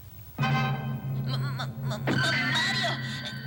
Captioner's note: stuttering